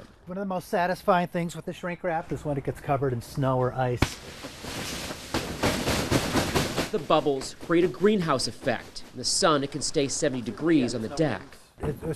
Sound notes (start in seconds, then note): 4.3 snow sliding; 5.2 hand banging on shrink wrap